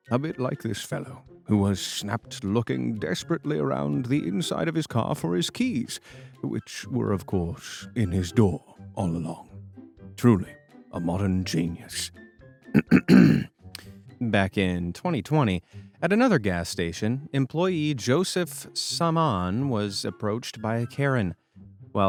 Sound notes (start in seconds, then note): 12.0 playful music; 12.7 clearing throat